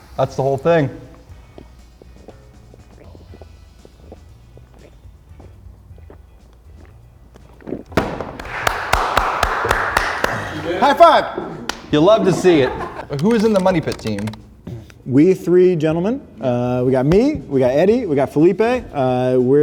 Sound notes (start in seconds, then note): 2.8 gulping; 8.0 banging; 8.2 clapping